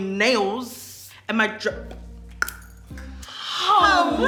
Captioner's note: clicks tongue